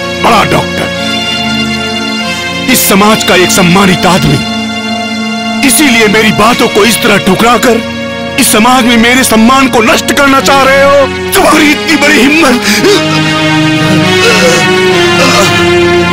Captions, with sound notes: A great doctor. A respectable person of the society. Is that the reason why you want to turn me down.. ..to get insulted in front of the society? You have the audacity and the.. [Groans]